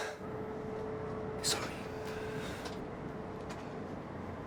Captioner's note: sighs